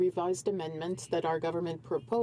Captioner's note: speaking french